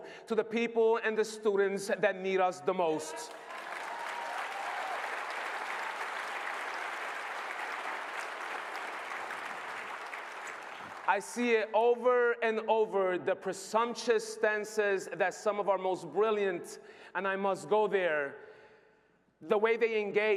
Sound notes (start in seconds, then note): 7.9 applause